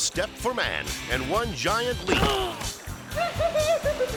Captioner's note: man groaning; man giggling